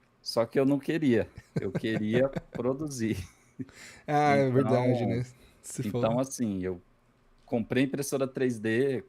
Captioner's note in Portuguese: risadas